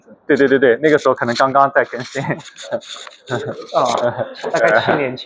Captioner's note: laughs